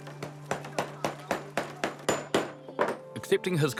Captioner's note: hammering